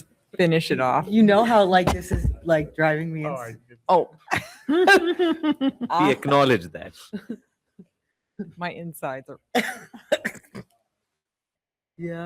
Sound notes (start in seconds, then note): 4.3 board members chuckle; 10.9 chuckles